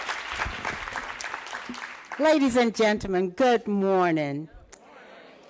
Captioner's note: applause